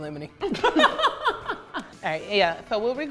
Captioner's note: laughs